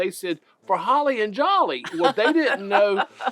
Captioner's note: laughs